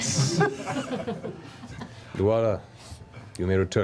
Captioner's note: laughter